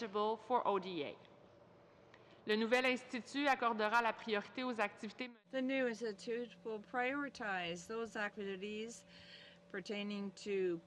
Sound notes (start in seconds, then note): 5.7 speaking French